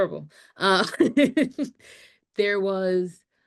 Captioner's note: laughs